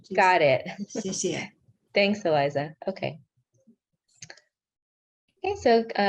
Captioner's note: speaking in foreign language; non-english speech